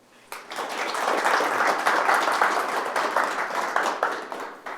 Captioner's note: attendees applauding